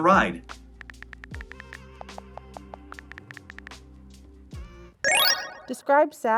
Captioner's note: typing sounds; chill music